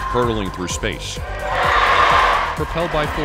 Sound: cheering

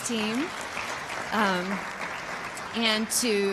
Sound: applause

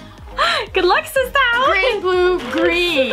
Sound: laughs

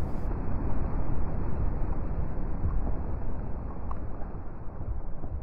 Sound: crumbling like sound FX

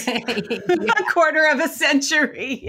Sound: both laughing

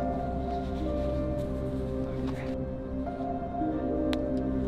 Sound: breathing shakily

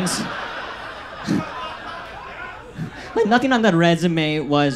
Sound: audience laughs

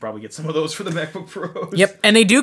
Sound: laughs

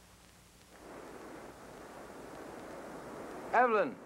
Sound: faint ocean surf breaking

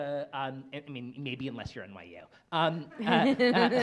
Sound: laughs

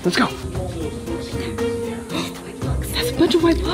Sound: whispering

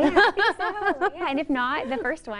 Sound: laughs

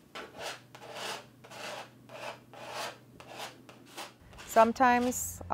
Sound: brush stroking on a canvas

